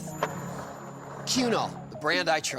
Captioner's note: skateboard wheels roaring